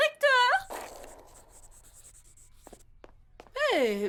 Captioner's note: scratching of pencil across paper